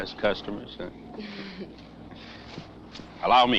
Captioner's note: Nell chuckles; chuckling